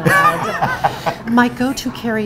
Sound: laughing

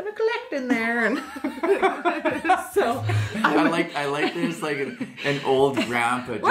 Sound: both laugh

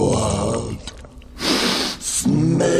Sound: sniffs

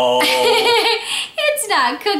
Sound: laughs

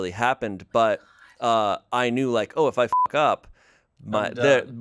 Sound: beep

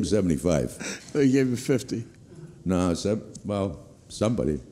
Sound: laughs

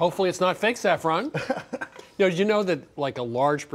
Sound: laughter

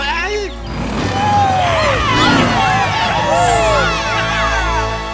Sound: cheering

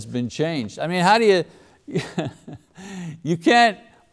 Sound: laughs

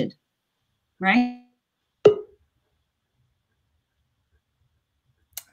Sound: audio gets distorted

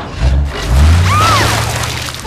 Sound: shrieks

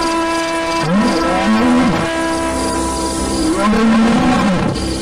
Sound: lion roaring

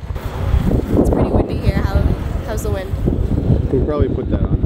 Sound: wind whooshing

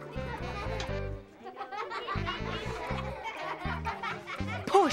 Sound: children laughing

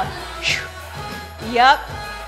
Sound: sighs

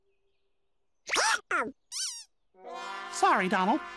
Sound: hiccups

